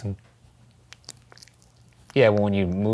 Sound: clicking tongue

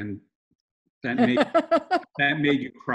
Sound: laughs

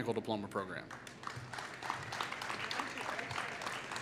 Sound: applause

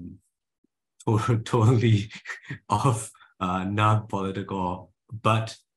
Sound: he chuckles

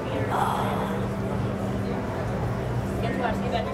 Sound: gasps

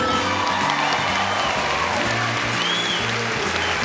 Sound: audience applauds

